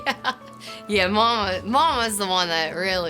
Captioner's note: laughter